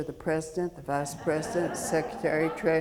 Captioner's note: audience laughing